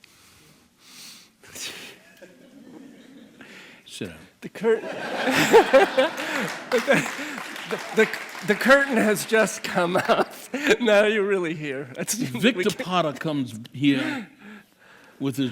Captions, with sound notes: [laughing] stand up. The curtain [crowd laughing] The curtain has just come off now that you’re really here. Victor Parra comes here